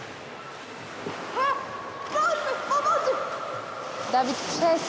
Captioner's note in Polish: plusk